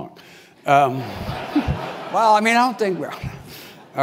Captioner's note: laugh